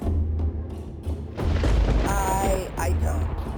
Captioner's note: thunder roars